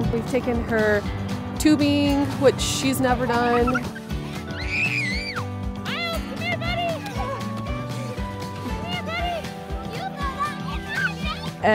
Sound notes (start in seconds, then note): 3.3 children laughing